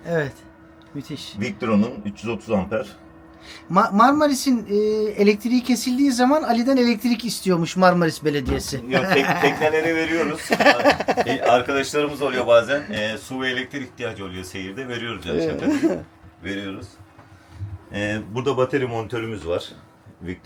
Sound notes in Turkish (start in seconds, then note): 8.8 kahkaha